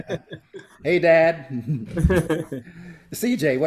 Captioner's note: all giggle